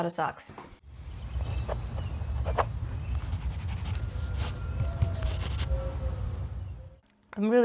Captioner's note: birdy, foresty, and writing noises